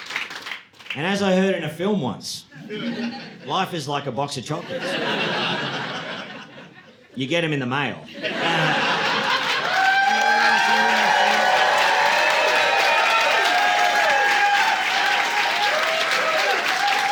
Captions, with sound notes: And as I heard in a film once, life is like a box of chocolates. You get them in the mail. (audience laughing) (audience cheering)